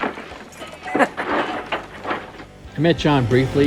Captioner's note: laughs